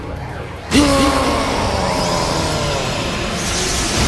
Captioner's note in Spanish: Gritos